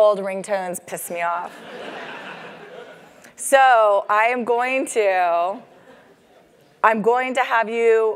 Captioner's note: laugh